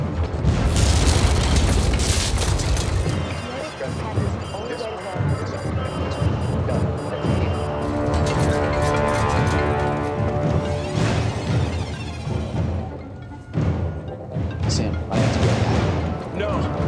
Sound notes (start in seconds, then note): 3.5 intense chattering; 8.1 cell phone rings